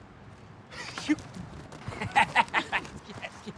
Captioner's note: laughs